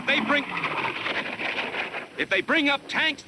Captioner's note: plane whooshing